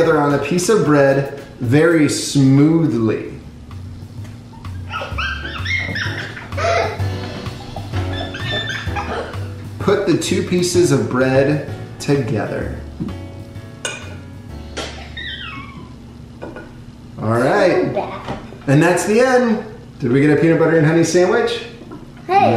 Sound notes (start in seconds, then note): 5.0 elegant jazzy music; 8.2 laughing